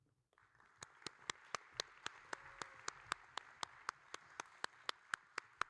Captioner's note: audience and applauding